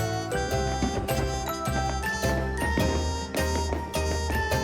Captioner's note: upbeat music; fireworks popping